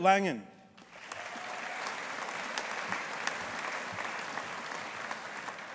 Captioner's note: audience applauding